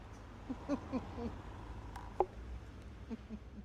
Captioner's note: laughs